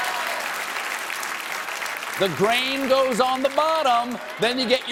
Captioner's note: applause